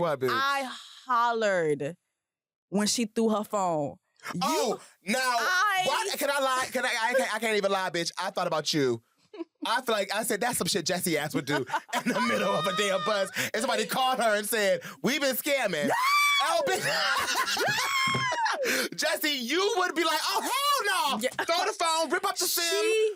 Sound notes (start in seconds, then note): 15.8 screams; 16.3 laughs